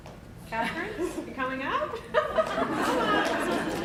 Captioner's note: laughter; applause